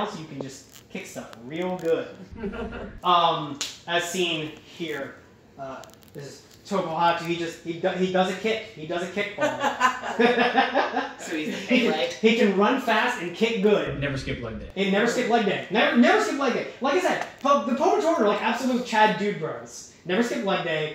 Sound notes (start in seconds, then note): 9.3 laughter